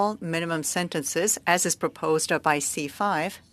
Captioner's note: speaking French